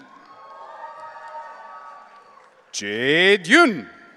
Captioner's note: audience cheering